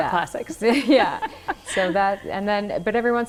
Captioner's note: laughing